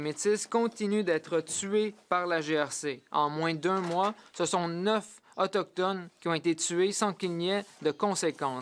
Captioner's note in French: voix de l'interprète